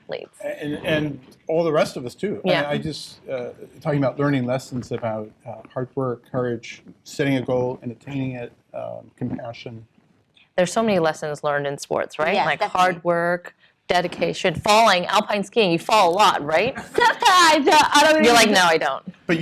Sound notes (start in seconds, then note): 16.7 laughter